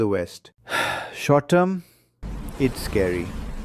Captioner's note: sighs